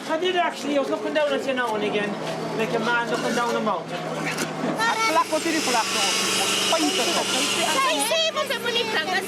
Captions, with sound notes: - I did actually. I was up and down, now and again. Like a man looking down the mountain. (speaking foreign language)